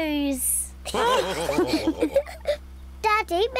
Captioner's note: all laughing